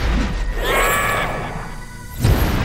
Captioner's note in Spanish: Gritos